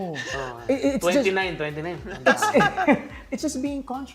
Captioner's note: chuckles